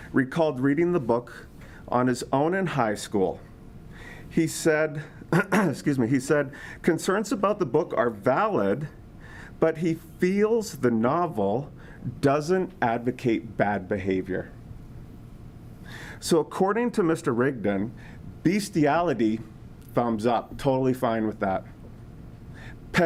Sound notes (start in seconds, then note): 5.3 clears throat